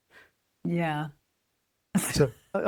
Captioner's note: laughs